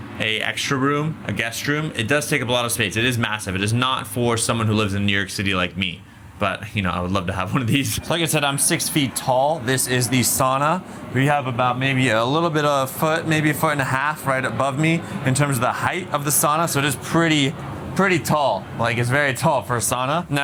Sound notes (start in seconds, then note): 7.4 laughing